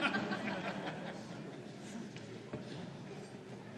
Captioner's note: laughter